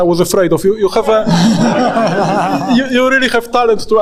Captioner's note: all laughing